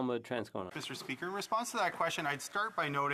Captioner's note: speaking French